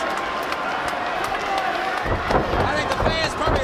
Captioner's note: crowd chatter